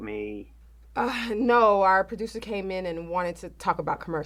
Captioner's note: laughs